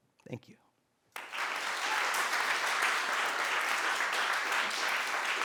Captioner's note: applause